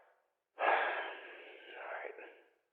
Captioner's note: sigh